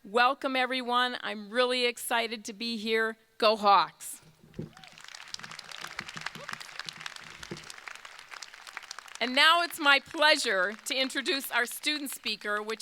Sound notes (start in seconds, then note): 4.6 crowd cheering; 4.6 crowd applauding